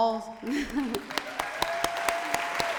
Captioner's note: applause